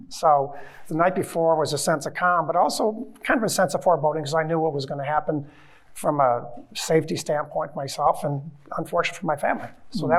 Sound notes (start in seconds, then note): none